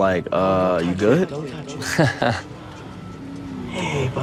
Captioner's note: Joe laughing; laughing